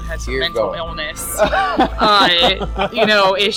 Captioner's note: laughs cheerfully